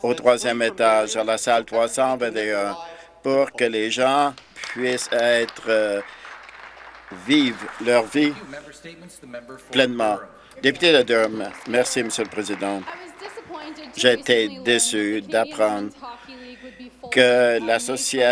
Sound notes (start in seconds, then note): 7.5 some Applause; 15.1 some Applause